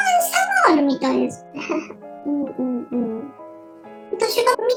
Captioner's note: laughs